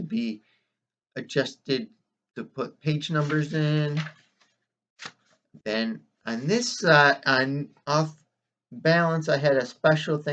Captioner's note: rustling of pages